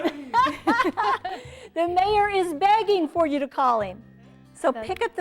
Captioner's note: laughter